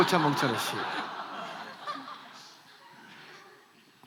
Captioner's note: laughs